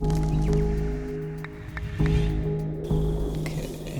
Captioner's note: soft ambient music; bird chirping